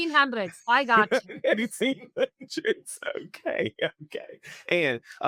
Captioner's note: laughing